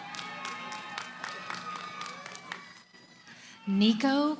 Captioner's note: cheering